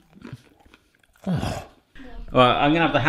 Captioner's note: crunching; grunting